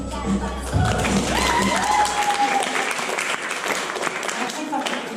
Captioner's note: applause